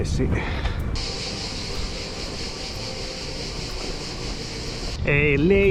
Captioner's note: chirping of cicadas